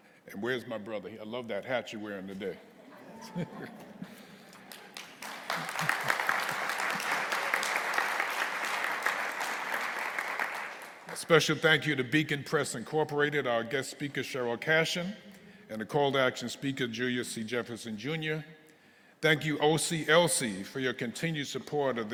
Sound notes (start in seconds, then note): 2.6 audience chuckling; 2.9 chuckling; 4.0 audience applauding